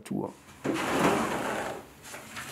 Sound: rumble

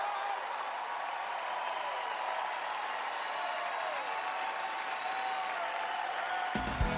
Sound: cheering, applause

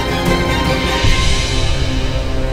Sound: mouthing

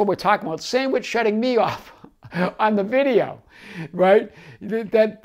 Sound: laughs

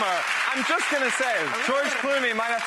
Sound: audience cheers

